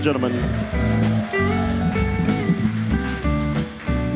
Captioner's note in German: applaus